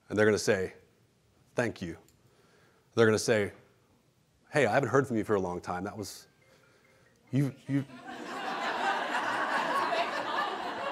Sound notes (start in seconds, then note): 6.3 phone rings; 7.6 laughing